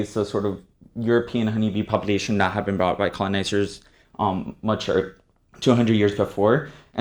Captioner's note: none